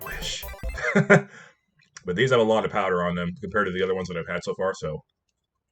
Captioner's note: nom